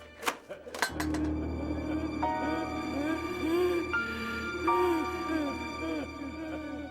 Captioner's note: metal tapping; heavy breathing